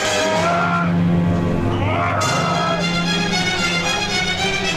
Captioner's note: both screaming